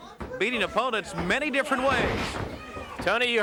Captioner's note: body thudding